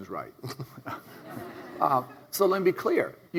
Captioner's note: all laugh